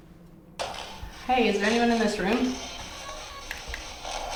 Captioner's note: spirit box scanning; spirit box noise